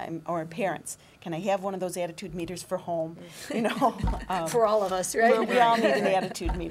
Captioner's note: laughter